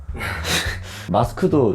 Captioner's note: laughs